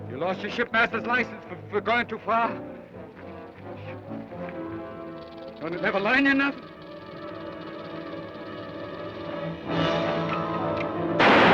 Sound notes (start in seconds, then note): 3.3 snake rattles; 8.5 dramatic orchestral music; 11.2 gun fires